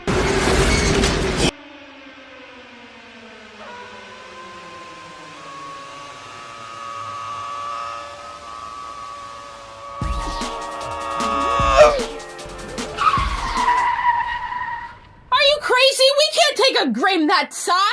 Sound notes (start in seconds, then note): 7.8 Sun screaming intensifies; 12.6 comical brake screech